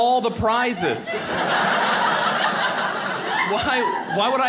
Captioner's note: audience laughing